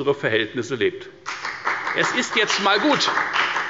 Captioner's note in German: Beifall bei der FDP